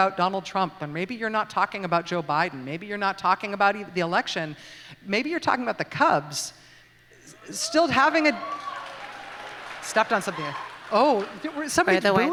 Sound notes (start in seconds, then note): 7.4 mixed response from the audience